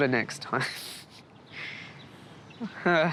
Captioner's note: laughs